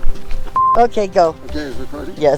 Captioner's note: beep